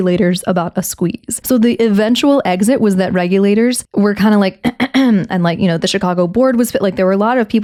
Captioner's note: clears throat